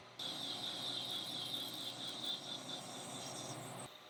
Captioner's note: machine whirring